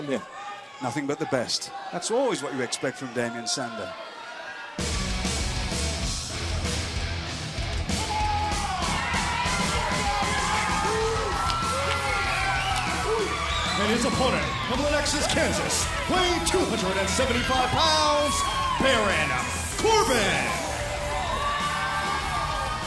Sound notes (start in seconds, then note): 13.7 crowd cheering